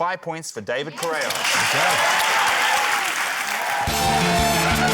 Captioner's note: cheering, applause